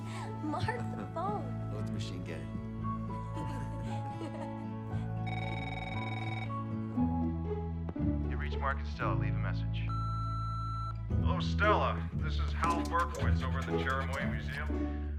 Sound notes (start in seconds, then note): 3.6 ringing